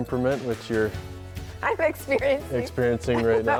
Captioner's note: laughing